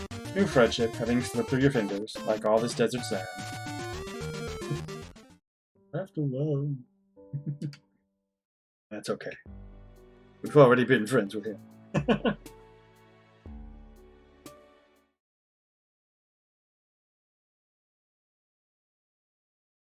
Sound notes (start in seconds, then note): 7.3 chuckles; 11.8 laughs